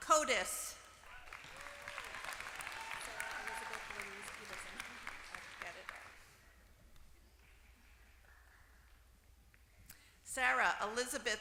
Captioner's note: applause